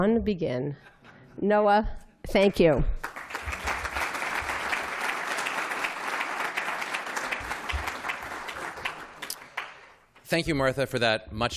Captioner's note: applause